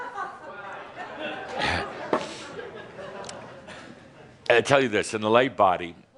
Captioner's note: laughter